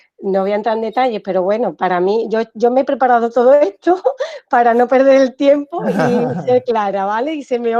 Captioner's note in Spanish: risas